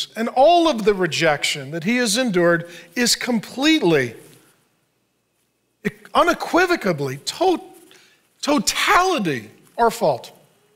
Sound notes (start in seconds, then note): none